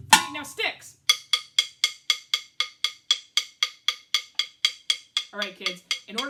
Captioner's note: clinks sticks together